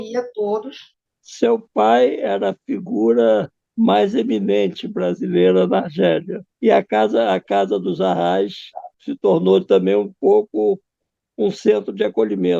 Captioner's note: director speaks through the computer